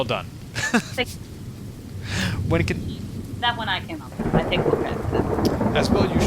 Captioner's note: speech drowned out by crashing thunder